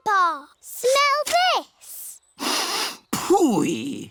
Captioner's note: sniffs